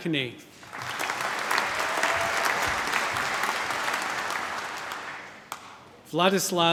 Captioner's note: applause